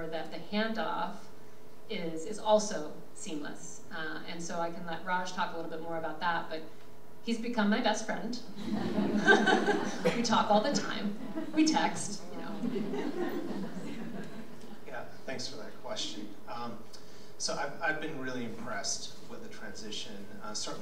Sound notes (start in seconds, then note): 8.6 everyone giggles